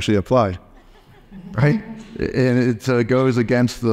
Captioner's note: audience laughs